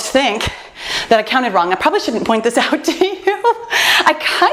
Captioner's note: laughs